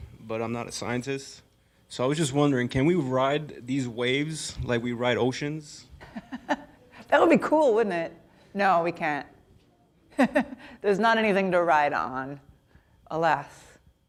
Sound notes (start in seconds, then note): 6.0 chuckles